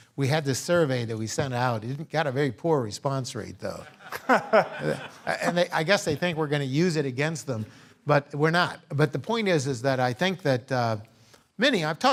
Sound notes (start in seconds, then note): 3.9 laugh